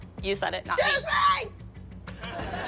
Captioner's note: shouting; laughter